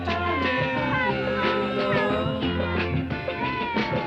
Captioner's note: kids cheering